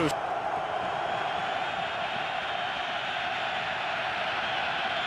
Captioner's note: cheering